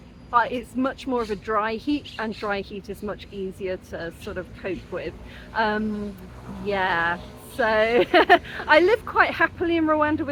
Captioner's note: laughing